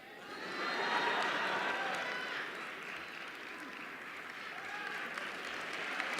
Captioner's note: laughter; applause